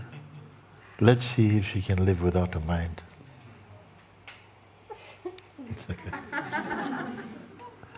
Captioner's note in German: Lachen